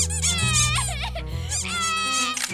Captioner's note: sobbing